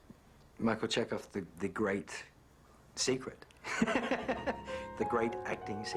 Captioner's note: laughs